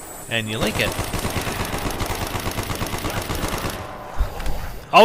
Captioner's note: gunfire sounds